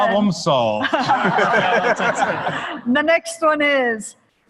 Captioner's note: laughter